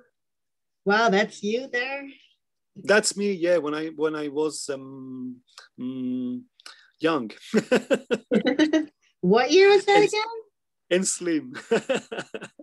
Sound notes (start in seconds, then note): 7.6 laughing